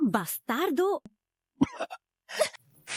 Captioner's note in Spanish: Cof